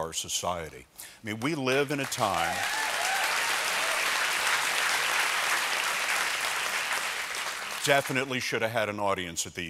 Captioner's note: applause